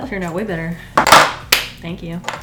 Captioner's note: claps